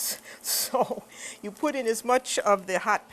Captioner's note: laughter